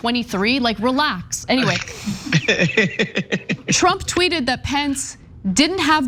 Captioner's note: laugh